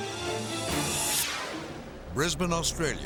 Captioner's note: thrilling music; graphic swishes